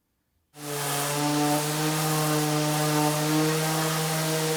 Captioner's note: sander whirring